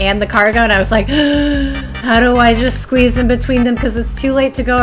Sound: gasp

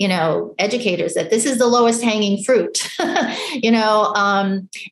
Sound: laughs

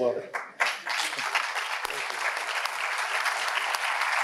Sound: audience applauding

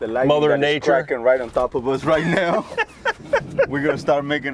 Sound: laughs

